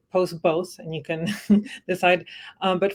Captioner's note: laughter